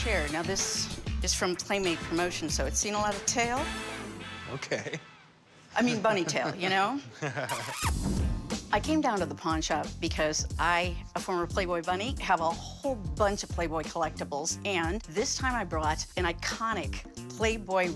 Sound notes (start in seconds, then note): 7.1 nervous laughter